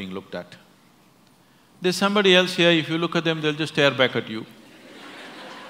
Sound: laughter

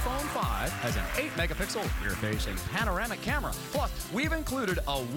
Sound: cheers and applause

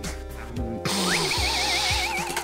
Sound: sniffing

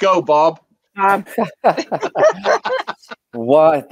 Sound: chuckles

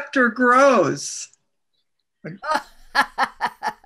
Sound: laughs

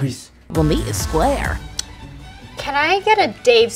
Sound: voiceover

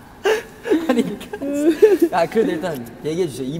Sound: sobbing

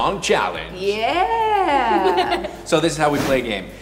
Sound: giggling

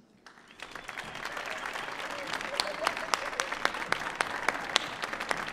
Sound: audience cheering and applauding

